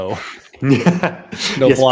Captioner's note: laughter